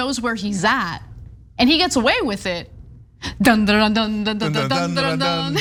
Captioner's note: laugh